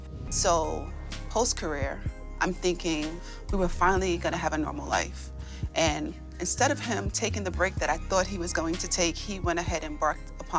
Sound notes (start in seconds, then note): none